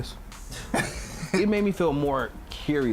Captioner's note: laughs